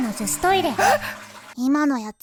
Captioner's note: gasp